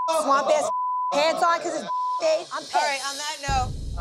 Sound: beep

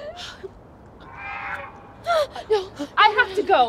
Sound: George honking

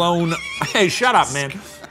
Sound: laughing

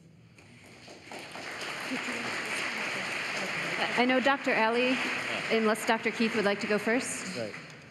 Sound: applause

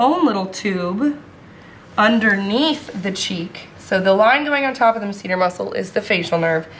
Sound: none

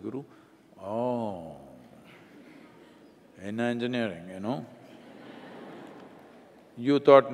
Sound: laughter

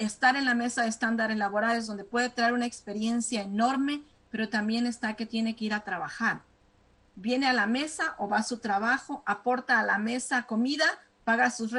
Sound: speaking spanish

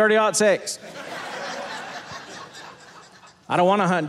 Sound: audience laughing

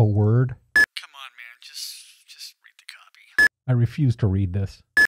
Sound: beep; beep

